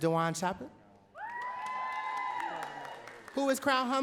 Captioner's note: audience cheering and clapping